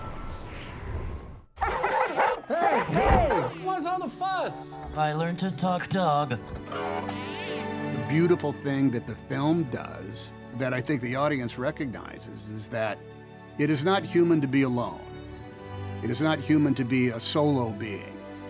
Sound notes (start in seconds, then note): 1.6 Goodyear barking; 1.6 Jeff barking; 6.6 Dewey beeping